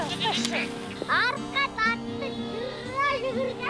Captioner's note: woman shouts in Mongolian